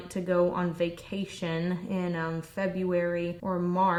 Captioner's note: none